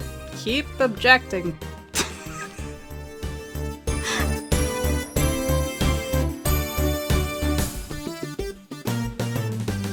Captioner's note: laughs